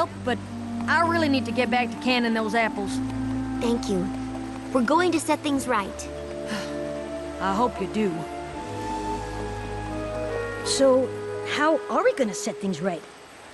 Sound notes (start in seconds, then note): none